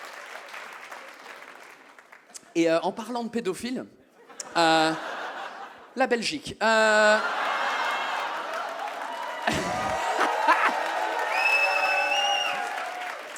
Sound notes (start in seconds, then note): 7.2 audience gasps and cheers; 9.5 audience claps and whistles